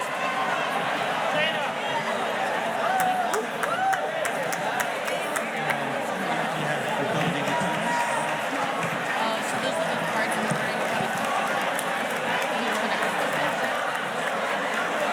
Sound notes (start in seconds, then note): 6.4 faculty members chattering; 13.8 murmurs